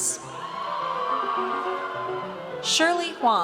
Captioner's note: audience cheers